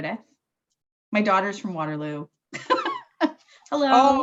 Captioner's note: laughs